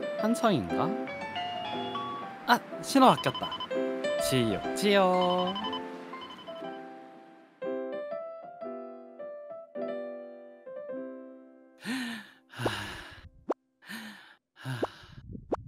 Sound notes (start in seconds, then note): 11.8 Naparang's breathing sound